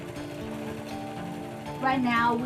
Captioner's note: sewing machine whirring